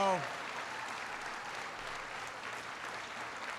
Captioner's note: applause